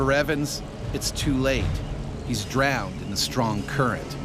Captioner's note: voiceover